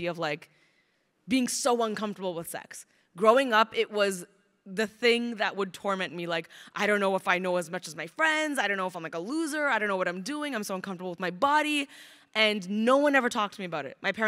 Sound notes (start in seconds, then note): none